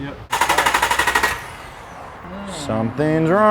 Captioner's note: whirring noise